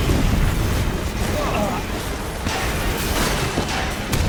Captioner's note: men grunting; dramatic music; loud crashing